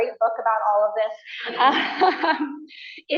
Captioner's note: laughter